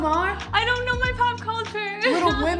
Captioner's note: laughs